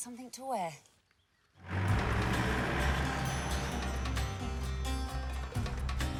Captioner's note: engine rumbling; upbeat music